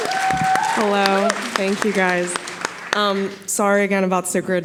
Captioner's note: audience applauding